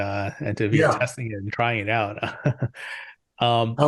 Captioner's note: chuckles